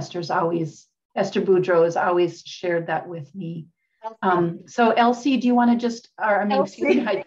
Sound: laughs

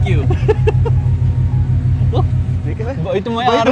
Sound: laughing

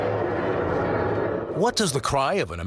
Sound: growl

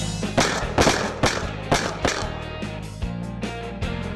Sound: gun firing

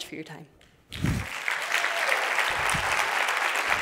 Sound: applause

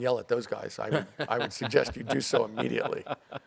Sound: laughs

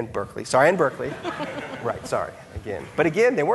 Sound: audience laughing

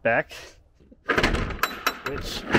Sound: metal door clanging

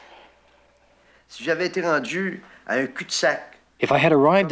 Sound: speaking in foreign language

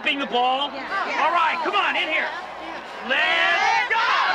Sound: women cheering

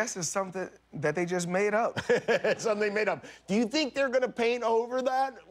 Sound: laughter

